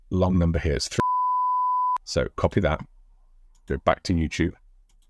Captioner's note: beeps